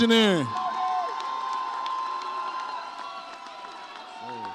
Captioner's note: audience cheers